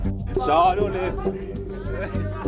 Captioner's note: speaks in foreign language